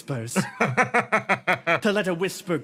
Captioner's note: laugh